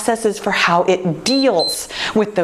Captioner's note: timer beeps